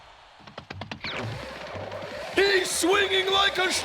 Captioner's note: crowd cheering; whirling